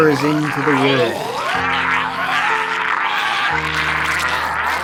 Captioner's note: Nibbly roars